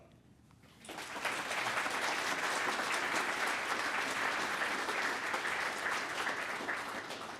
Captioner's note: applause